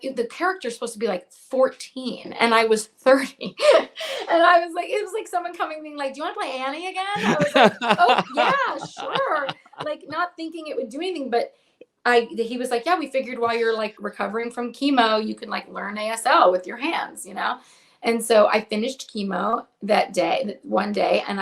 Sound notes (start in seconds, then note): 3.6 laughs; 7.2 laughs